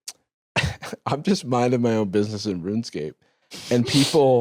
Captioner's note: laughs